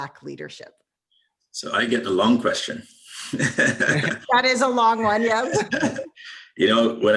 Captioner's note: laughs